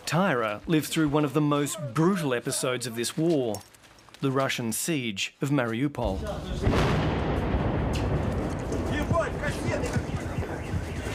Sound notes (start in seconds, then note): 6.1 explosion